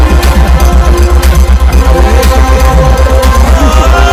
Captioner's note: laughs